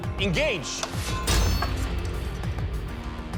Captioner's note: crashing